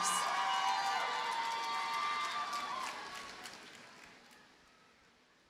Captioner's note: audience cheers and applauds